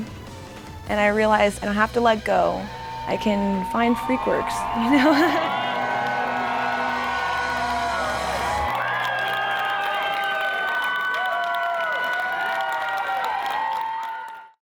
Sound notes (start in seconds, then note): 4.6 laugh; 6.0 cheering